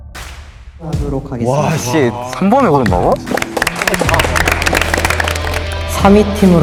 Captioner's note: confused murmuring